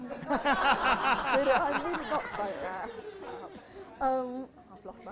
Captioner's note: laughter